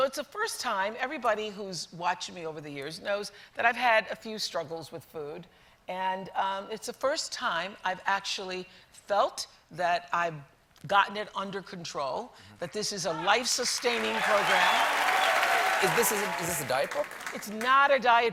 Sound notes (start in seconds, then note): 15.3 applause